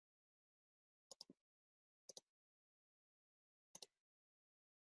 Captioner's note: mouse clicks